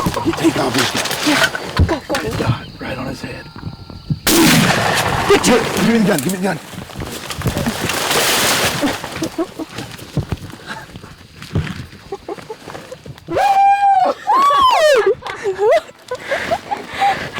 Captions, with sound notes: He's taking off! [GUNSHOT] [LAUGH]